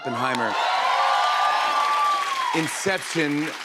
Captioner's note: cheers and applause